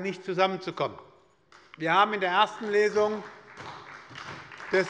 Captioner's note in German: Beifall bei der SPD